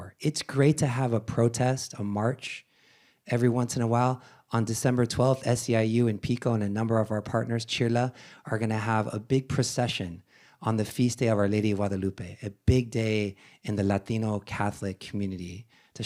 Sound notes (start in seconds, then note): none